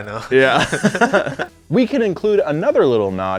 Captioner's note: laughing